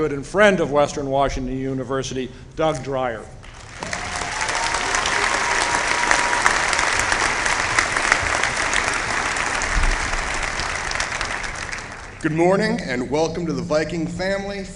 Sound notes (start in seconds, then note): 3.4 applause